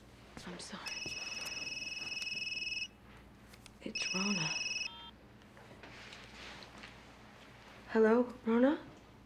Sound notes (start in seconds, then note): 3.9 phone beeps